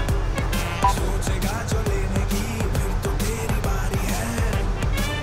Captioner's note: Beep on mobile